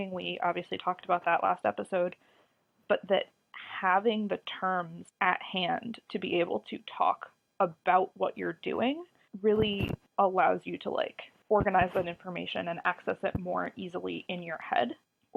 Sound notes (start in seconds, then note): none